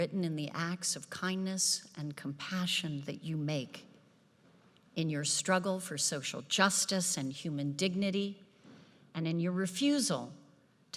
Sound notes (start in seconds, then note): none